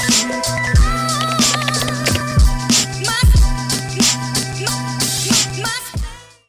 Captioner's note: keyboard clattering; upbeat music